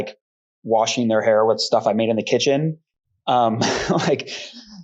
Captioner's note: laughs